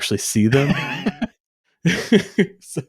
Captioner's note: laughs